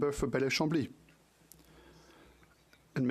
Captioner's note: speaking French